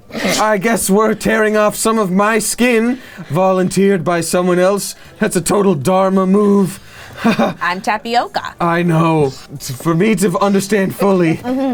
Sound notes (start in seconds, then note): 7.0 irritably laughs